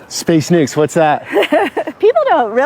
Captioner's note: laughs